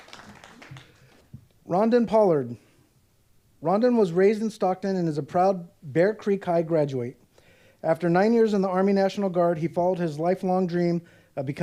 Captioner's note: applause